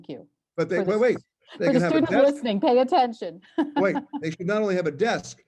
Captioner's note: laugh